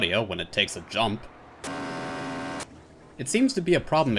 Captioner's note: disproportionately loud engine revving